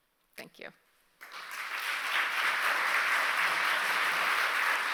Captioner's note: applause